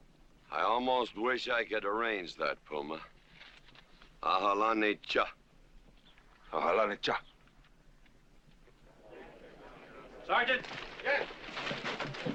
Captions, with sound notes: I almost wish I could arrange that, Puma. (G.W. and Puma speaking Comanche) Aha loni cha! - Sergent. - Yes?